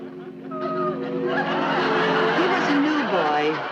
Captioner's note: audience laughing; quiet music beginning